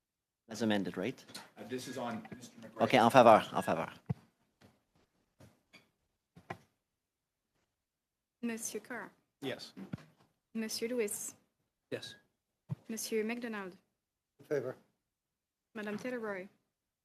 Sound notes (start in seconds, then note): 4.6 speaking French